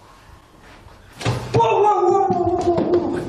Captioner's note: tapping sound